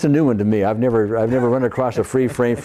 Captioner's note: laughs